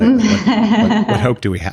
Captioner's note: laughing